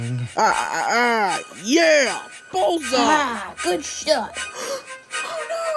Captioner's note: mysterious voices